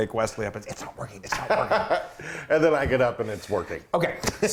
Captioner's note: laugh